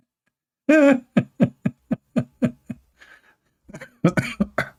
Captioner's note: Ketawa